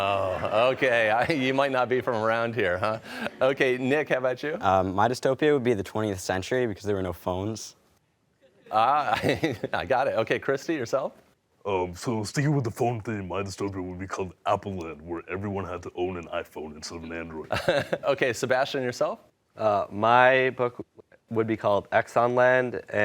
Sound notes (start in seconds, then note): 9.9 laughs